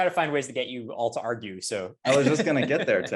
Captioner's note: laughs